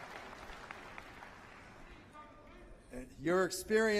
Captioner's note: applause